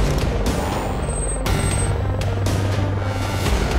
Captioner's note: electronic beeps